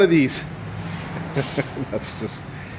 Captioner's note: laughing